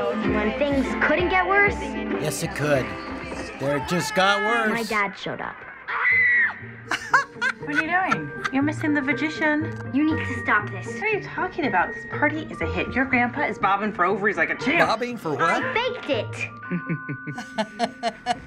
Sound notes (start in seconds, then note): 5.7 mortified shriek; 7.0 cackling; 16.7 chuckles deviously